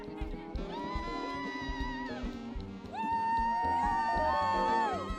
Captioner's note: people cheering